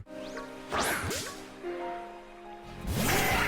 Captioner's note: sound effect fizzes; Scyther exclaiming